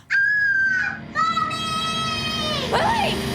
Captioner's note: Whitney whimpering; Lily screams